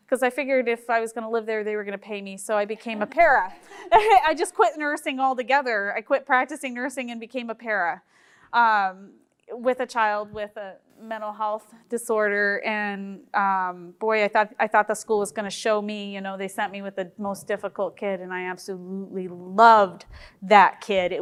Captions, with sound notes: 'cause I figured if I was going to live there, they were going to pay me, (group chuckling) so I became a para! (chuckles) I just quit nursing altogether, I quit practicing nursing and became a para with a child with a mental health disorder and boy, I thought the school was going to show me, you know, they sent me with a most difficult kid and I absolutely loved that kid!